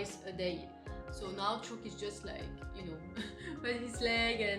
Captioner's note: chuckle